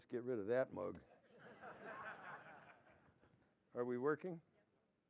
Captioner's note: laughter